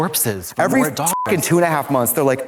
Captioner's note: beep